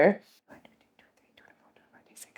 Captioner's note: counting